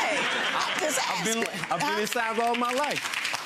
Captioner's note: audience applauding